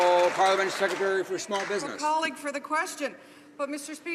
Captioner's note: some Applause